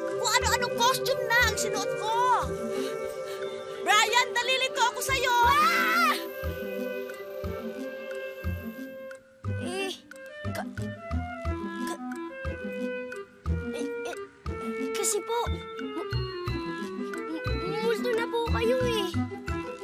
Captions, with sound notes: I've worn every costume there is. -Bryan, you're confusing me. -[screams] [stammering] But... But... you're a ghost.